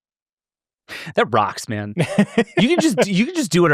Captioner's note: laughs